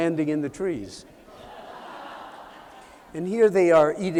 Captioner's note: laughter